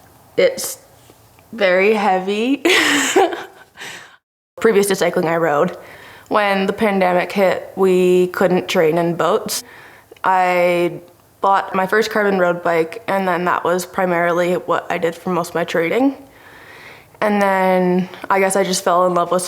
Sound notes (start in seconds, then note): 2.6 laughter